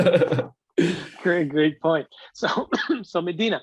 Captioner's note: laughter